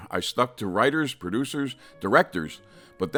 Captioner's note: sighs